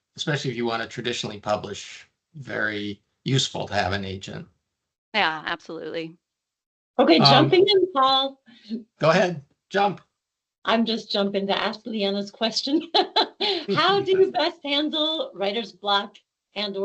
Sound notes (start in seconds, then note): 13.3 laughing